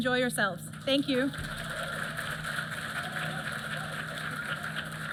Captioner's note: applause